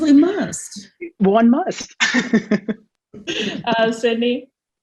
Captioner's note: laughs